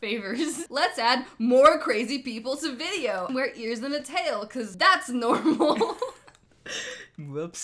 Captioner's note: laughs